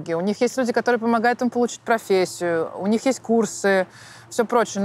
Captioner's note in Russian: none